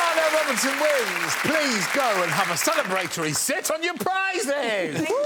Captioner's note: cheers and applause